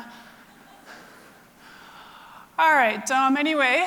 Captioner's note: audience laughter